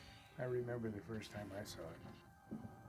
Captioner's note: menacing music plays; calcinator ray crackles